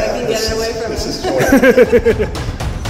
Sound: laughter

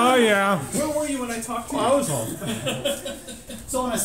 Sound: laughter

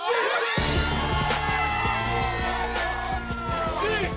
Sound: cheering

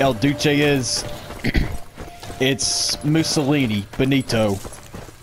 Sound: clearing throat

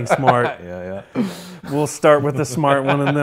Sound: laughs

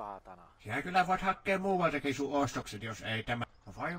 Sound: Lauri's character speaks Finnish; shopkeeper angrily replies

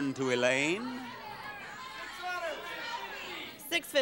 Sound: audience shouting

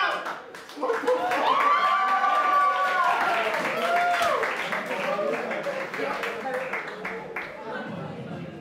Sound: applause

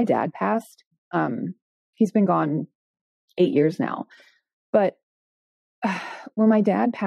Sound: sighing

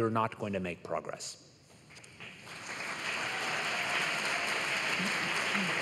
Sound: applause

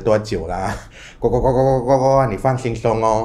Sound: croaks

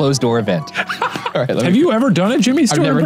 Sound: laughs

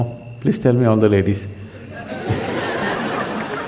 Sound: laughter

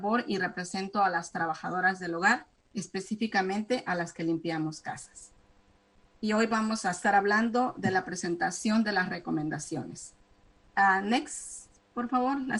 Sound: speaking spanish

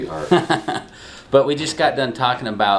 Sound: laughs

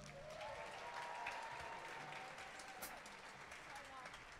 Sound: audience applauding

